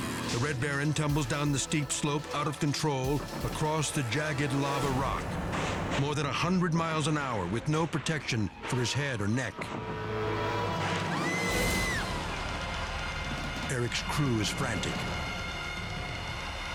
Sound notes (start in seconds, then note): 10.8 onlookers screaming; 15.1 suspenseful music